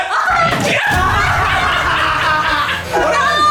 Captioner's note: laughing